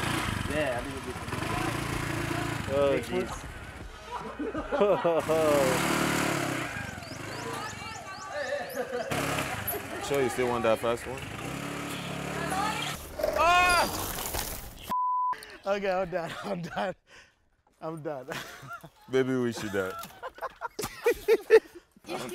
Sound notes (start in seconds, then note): 0.0 engine revving; 3.9 laughing; 8.1 group shouting; 13.2 shouts; 18.2 laughs; 20.5 laughing